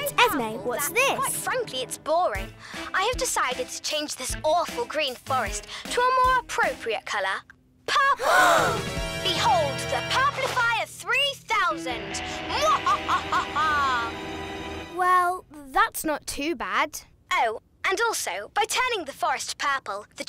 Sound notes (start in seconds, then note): 8.3 all gasp; 11.8 cackles